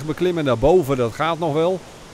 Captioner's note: voiceover